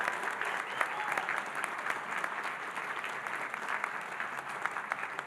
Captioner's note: audience applauding